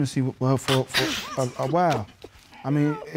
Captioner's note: laughs